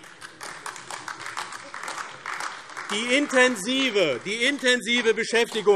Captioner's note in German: Beifall AfD